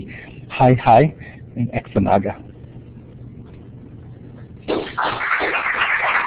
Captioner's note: speaks in Native language; round of Applause